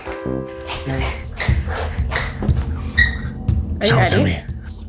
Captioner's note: intriguing music; feet shuffling